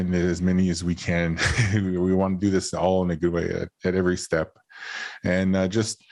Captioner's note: chuckles